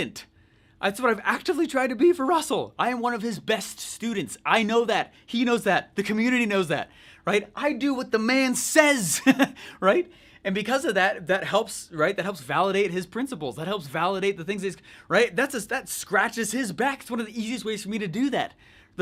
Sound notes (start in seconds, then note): 9.1 laughs